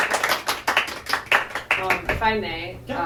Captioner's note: applause